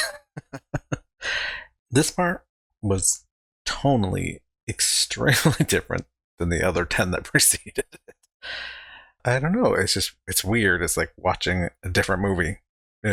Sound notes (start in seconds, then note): 0.0 laughing; 8.0 chuckling